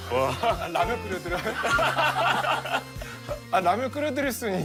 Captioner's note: laughs and says something to say